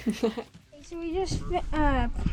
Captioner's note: laughs